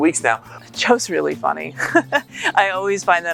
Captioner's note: laughs